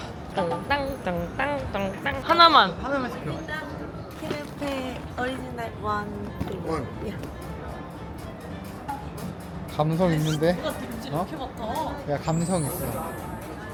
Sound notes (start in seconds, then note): 8.7 sniffing 👃